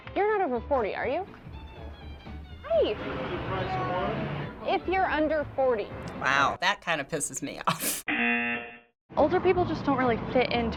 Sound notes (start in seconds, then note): 7.6 chuckles; 8.6 buzzer